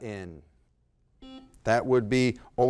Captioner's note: buzzer blaring